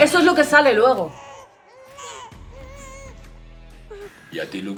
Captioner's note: crying baby